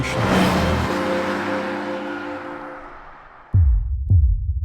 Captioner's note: car roars past